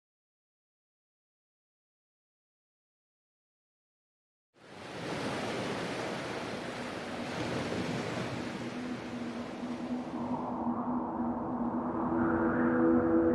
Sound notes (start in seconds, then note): 4.6 waves lapping; 10.6 soft music